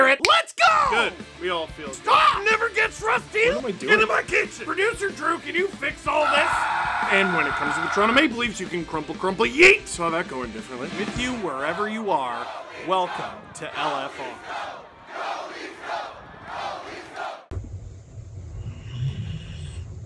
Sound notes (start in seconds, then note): 6.2 screaming; 15.7 dog snores loudly